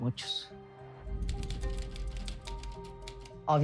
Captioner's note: typewriter clacks